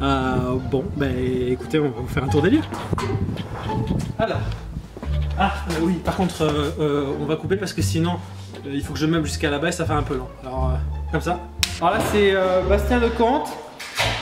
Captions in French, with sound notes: bon... ben écoutez donc faire un tour des lieux alors... Ah! Oui.. Par contre on va couper parce que sinon il faut que je meuble jusqu'à la bas et ça fait un peu long comme ça *CLAP* Là c'est Bastien Lecomte